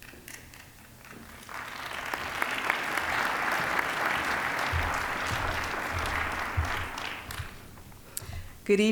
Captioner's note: applause